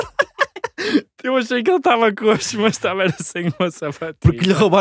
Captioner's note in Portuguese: risos